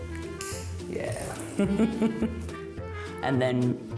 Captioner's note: chuckles